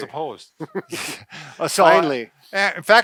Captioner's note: laughs